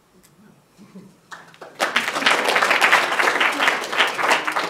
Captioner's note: applause